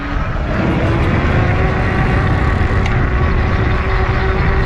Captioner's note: wheel pattering